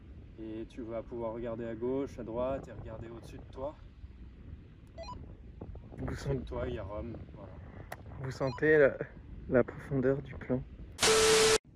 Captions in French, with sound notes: et tu vas pouvoir regarder à gauche, à droite et regarder au-dessus de toi *bip* en dessous de toi, y a Rom, voilà vous sentez...la profondeur du plan